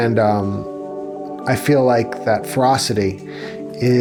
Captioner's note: sighs